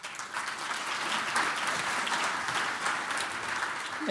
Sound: applause

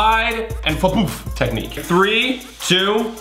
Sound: imitates thudding

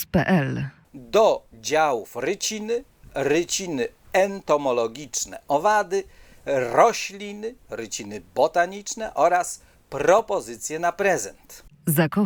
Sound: insects

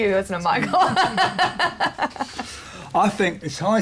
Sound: laughs

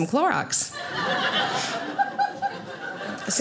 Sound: audience laughing

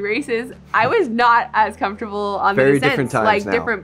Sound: laughs

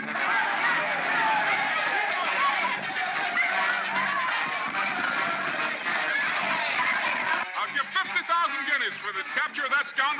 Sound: crowd shouting

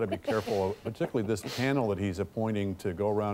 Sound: laughter

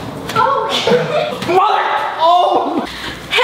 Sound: screams

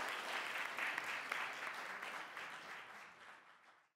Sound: applause

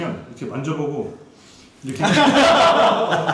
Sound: sniff

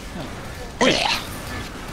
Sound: mutant noises =D

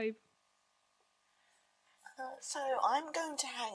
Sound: a pause

